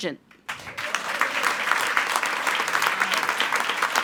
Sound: attendees applauding

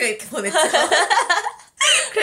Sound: laugh

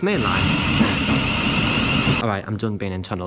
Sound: train entering station

